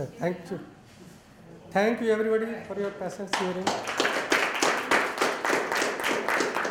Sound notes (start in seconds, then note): 3.3 applause